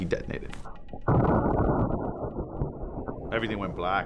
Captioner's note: bomb exploding